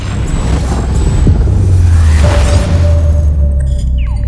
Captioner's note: metallic tones